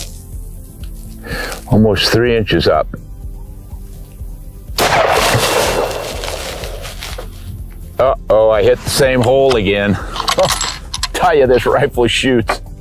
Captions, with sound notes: Almost three inches up. (gun shot) Oh oh, I hit the same hole again. Tell you this rifle shoots.